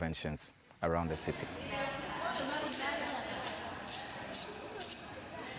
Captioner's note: people talking in background